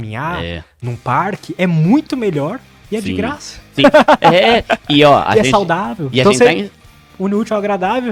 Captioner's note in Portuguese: risadas